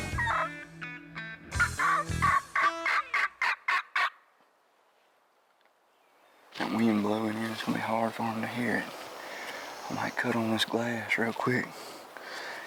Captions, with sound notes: (upbeat music ends) (turkey calling ends) That wind blowing in, it's gonna be hard for them to hear it. I might cut on this glass real quick.